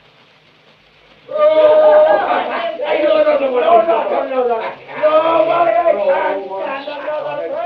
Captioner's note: revelry grows louder